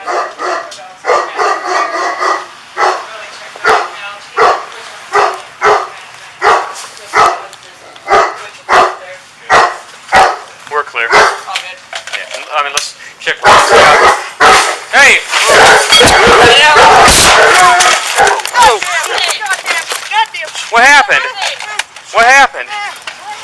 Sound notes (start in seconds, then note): 13.2 barking intensifies; 15.2 crashing; 16.8 gunshot; 17.2 mingled voices yelling; 19.2 cursing; 21.3 groans